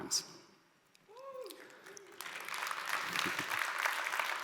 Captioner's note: audience applauds